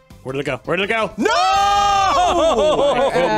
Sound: yelling

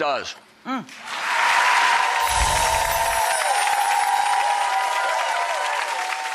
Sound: audience cheers and claps

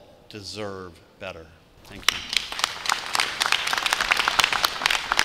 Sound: clapping

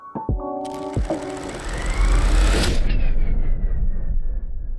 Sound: film reel clicking

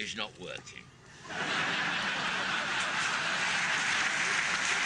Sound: audience laughing

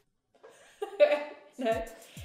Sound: laughter

